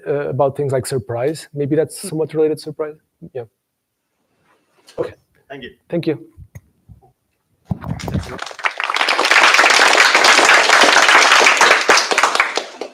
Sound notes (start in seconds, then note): 7.7 applause